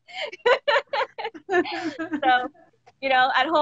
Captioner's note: both laughing